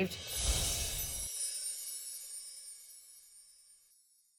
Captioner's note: chimes tinkling